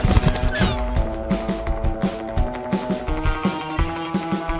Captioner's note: wings flapping; gulls squawking